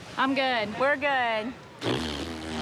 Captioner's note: blowing raspberry